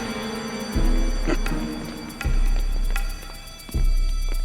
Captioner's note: chuckles; alarm wailing